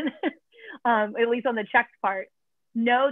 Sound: laughter

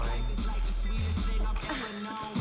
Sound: laughing

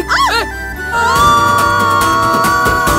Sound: screaming

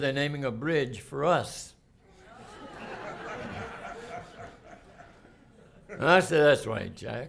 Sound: laughter

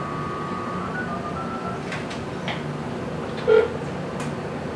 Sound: phone rings

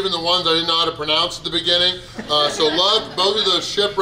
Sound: people laugh

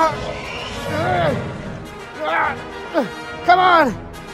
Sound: metriacanthosaurus Sounds; struggle Sounds

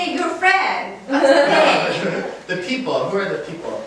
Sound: laughing

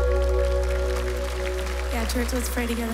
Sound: applause

